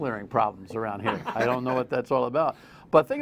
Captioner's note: laughter